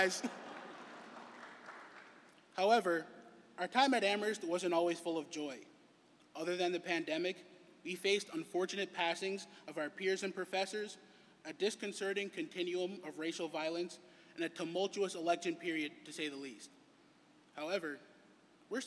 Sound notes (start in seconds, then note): 0.1 laughter